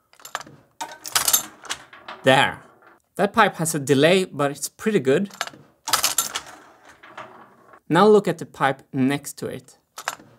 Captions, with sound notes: [mechanism clicking] There, that pipe has a delay but it's pretty good. [mechanism clicking] Now look at the pipe next to it.